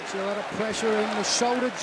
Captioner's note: crowd cheering